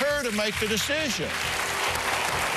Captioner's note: applause